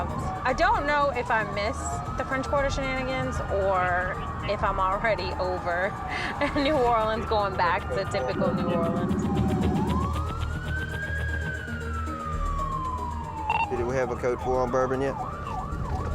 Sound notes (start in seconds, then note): 8.9 police siren